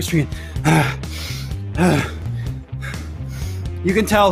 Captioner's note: groans